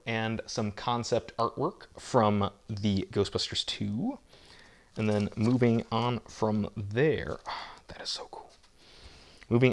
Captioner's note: gasp